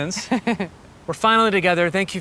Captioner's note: Gwyneth chuckling